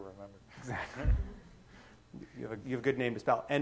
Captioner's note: chuckles